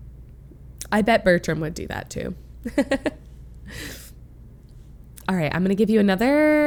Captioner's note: laughs